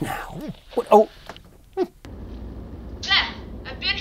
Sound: tv static buzzes

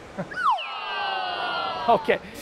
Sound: slide whistle

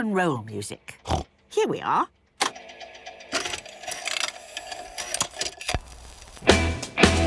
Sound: clicks, whirring

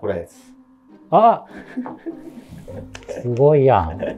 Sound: laughing

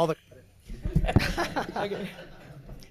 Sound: people laughing

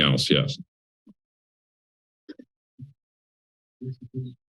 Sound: pause

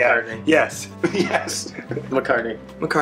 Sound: laughing

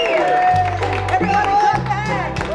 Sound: excited whistling; audience clapping

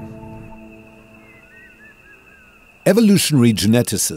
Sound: birds chirping

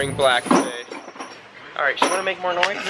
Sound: loud clattering

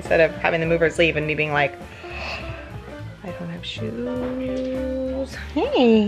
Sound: gasp

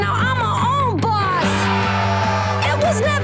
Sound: aghhhhhhhhh

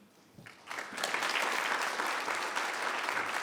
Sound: applause

